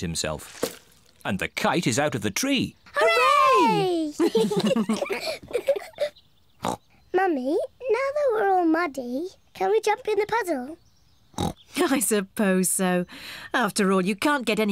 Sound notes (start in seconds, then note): 4.1 all giggle; 5.6 snorts